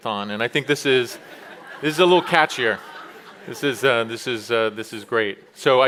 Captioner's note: chuckles